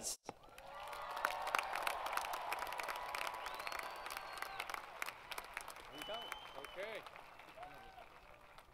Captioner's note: crowd Cheering & Applause